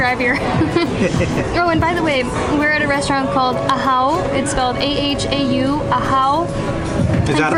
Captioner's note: chuckles